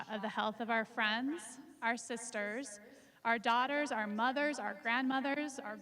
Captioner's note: none